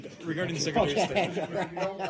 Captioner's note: laughter